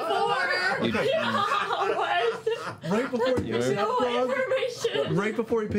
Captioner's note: laughing